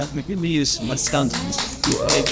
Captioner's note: applause